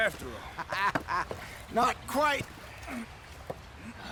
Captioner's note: laughs